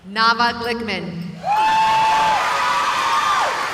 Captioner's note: cheering